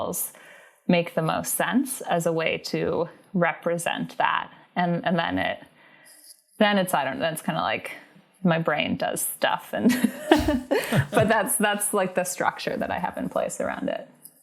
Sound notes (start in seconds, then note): 10.0 laughs